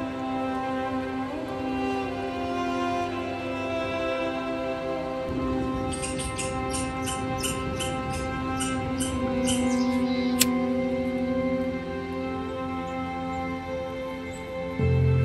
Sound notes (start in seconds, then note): 5.9 sound of squirrel chirping; 9.4 sound of birds and lighter